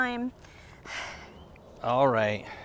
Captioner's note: Ramon sighs